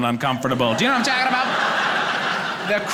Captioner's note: audience laughing